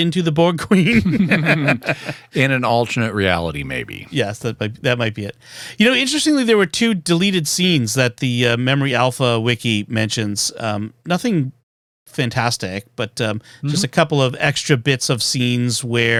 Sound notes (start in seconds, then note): 0.8 laughter